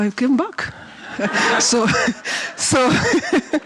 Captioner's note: laughs